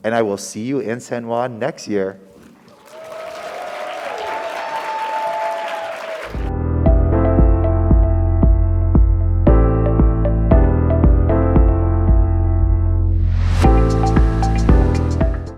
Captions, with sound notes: and I will see you in San Juan next year. (audience cheering) (audience applauding) (light music)